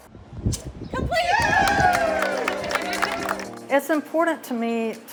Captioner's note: group cheering; upbeat music